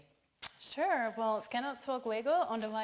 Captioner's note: speaking foreign language